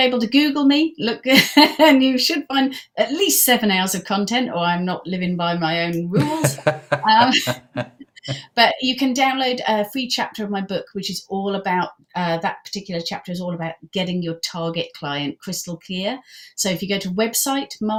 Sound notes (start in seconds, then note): 6.0 laughing